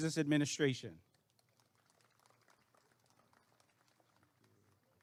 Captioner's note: applause and cheering